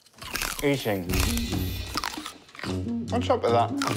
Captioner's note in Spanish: sonidos de mordiscos y mascar